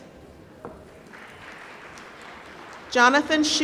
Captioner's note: applause